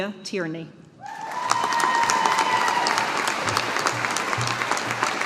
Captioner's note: audience applauding